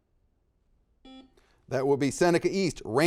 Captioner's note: buzzer dings